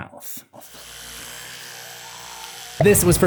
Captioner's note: brushes teeth